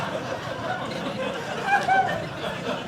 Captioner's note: audience laughing